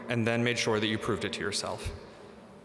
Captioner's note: none